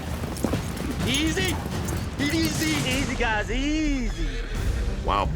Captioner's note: horse neighs